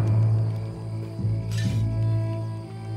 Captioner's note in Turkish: Çelik sesi